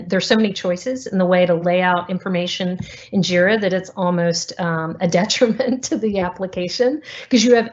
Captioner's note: giggle